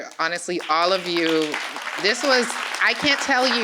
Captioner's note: applause